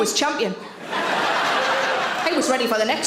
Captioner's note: audience laughs